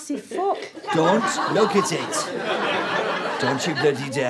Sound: audience laughter

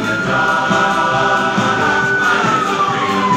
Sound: sirens wailing

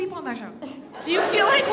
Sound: audience laughs

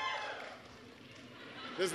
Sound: applause

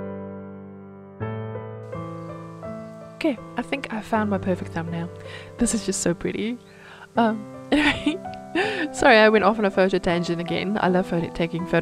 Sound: giggle

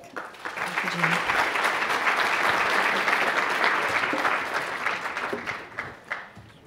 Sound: applause

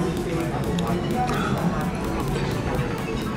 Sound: gasp

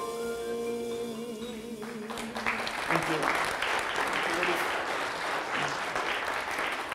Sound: audience applause

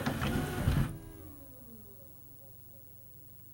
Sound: fan spins down

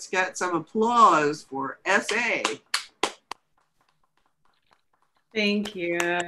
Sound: applause

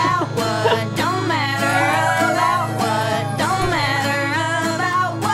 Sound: dog howling

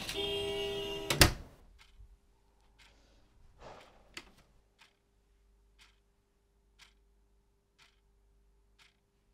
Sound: clock ticking

